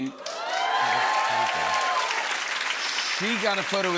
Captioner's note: cheers and applause